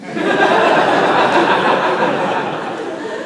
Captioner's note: laughter